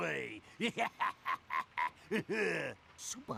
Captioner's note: laughing